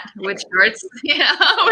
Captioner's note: radio interference drowns out speaker